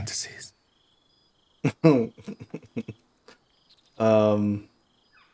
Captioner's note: laughter